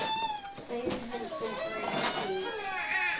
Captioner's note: baby crying